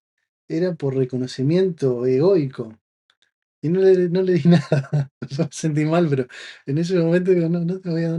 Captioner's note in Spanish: risas